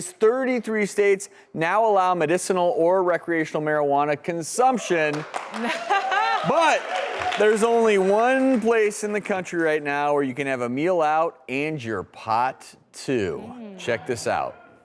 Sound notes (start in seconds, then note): 5.0 applause